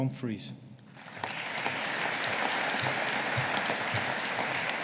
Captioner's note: audience applauding